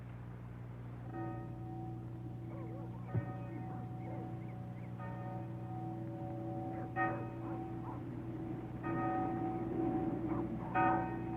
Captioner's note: church bells ringing